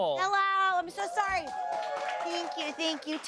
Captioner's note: audience cheers